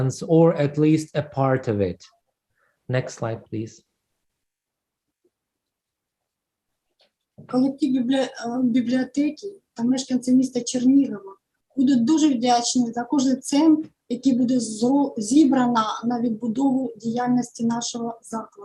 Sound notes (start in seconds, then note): 3.2 foreign Language